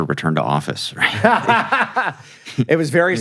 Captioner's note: laughs